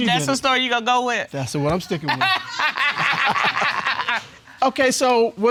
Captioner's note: both laugh